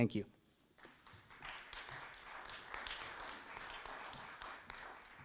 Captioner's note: audience clapping